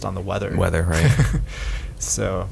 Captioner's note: laughs